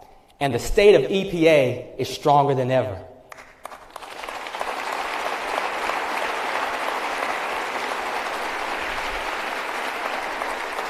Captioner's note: applause